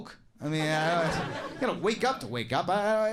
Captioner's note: audience laughing